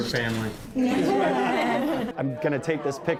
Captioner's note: laughter